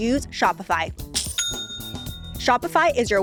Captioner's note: cash register dings